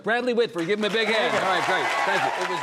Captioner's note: audience applauding